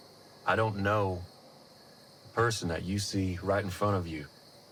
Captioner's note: none